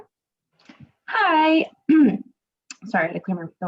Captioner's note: coughs